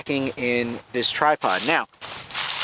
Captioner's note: dry leaves crashing